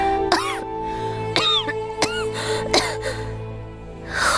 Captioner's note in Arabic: سعال